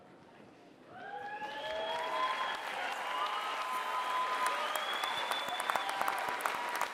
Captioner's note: applause